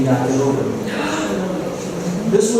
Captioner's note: gasp